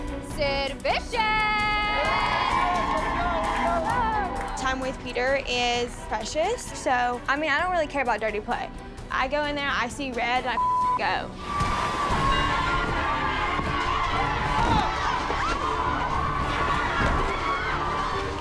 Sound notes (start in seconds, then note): 11.4 bell dinging; 11.4 cheers and applause; 14.5 dramatic music